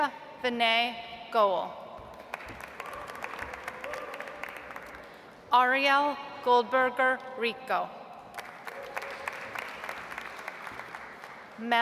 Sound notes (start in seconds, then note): 2.2 audience applauds; 8.3 audience applauds